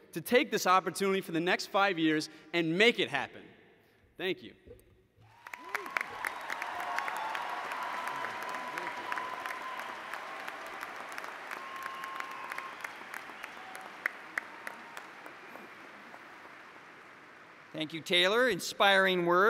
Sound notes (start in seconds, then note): 5.2 applause